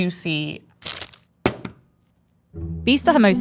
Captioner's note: wrapper ripping; burrito thumping